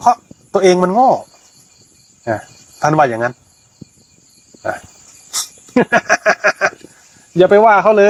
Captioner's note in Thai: เสียงหัวเราะ